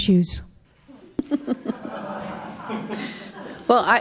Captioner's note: laughs